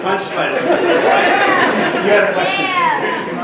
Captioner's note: laughter